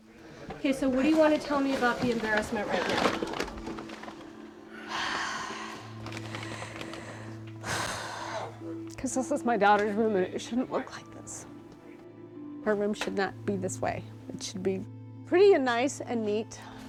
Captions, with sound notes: OK, so what do you want to tell me about the embarrassment right now? [breathing deeply] Because this is my daughter's room. It shouldn't look like this. Her room should not be this way. It should be pretty and nice and neat.